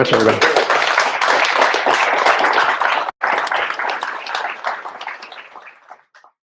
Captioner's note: applause